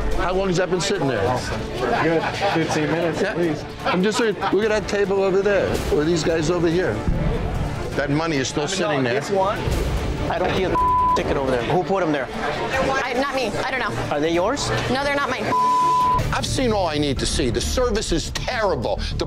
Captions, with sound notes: - How long has that been sitting there? - About 15 minutes, at least. - I'm just saying, look at that table over there, or these guys over here, that money is still sitting there. - I've been done with this one. - I don't see the (beep) ticket over there. Who put them there? - Not me, I don't know. - Are they yours? - No, they're not mine (beep). - I've seen all I need to see, the service is terrible.